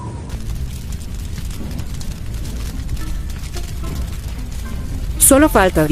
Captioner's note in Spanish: Sonido de quemando comida